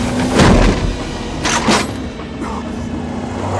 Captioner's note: gun cocks